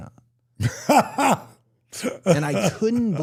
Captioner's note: DDP laughs